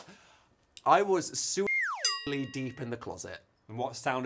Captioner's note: bell tinging